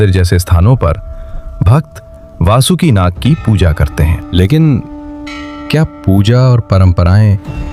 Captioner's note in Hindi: घंटी की आवाज़